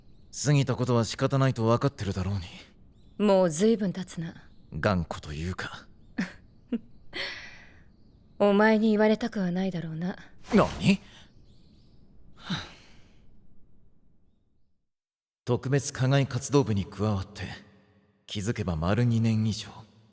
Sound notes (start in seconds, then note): 6.6 Mitsuru chuckles; 12.4 sigh